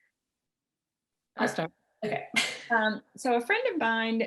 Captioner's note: laughs